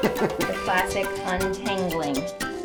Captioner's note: laugh